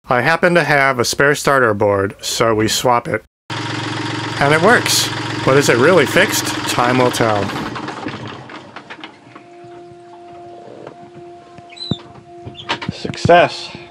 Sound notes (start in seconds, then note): 3.6 sound of engine running